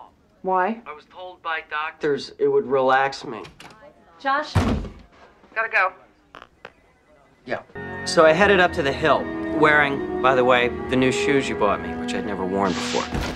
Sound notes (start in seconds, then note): 3.4 door opens; 4.5 smack; 13.1 shoes sliding against floor